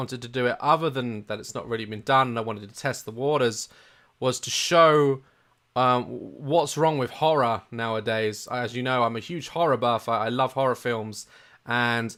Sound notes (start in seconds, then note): none